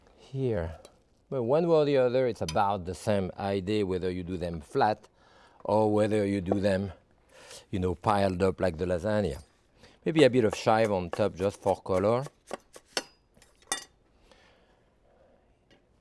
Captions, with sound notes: Here. But one way or the other, it's about the same idea, whether you do them flat or whether you do them piled up like the lasagna. Maybe a bit of chive on top just for color. (chives crunching) (knife clanging)